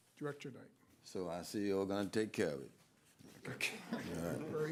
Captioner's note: laughter